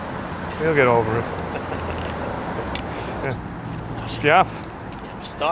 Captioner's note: both laughing